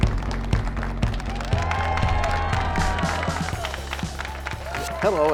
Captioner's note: cheers and applause